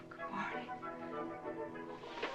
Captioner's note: sighing